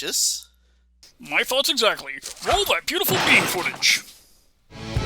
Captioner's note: whoosh, crash noise